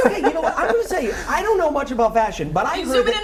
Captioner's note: laughter